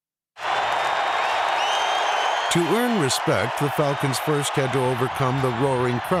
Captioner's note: cheers and applause